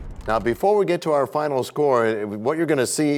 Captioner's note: crashing sound